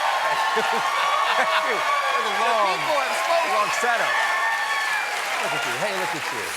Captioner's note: cheers and applause